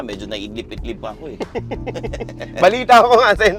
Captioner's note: laughs